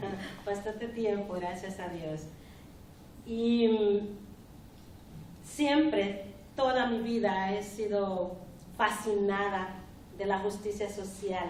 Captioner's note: speaking spanish